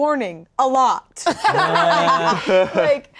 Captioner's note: all laughing